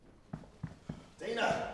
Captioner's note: footsteps plodding